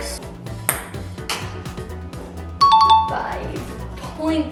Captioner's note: ping pong ball bouncing